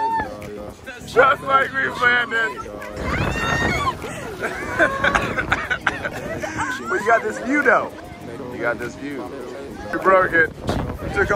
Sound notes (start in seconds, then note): 6.1 screaming